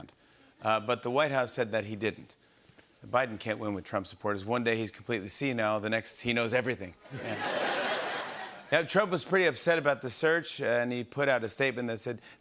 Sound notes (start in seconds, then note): 7.0 laughter